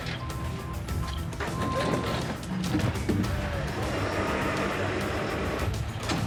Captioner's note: intense music; trucks revving